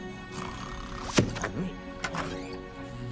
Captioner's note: door opens